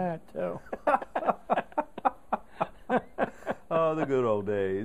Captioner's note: laughter